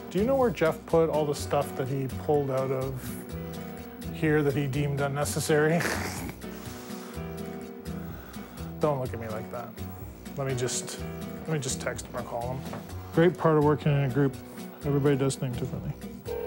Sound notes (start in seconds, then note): 5.7 snorts